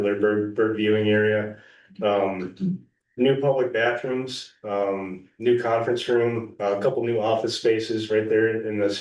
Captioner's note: clears throat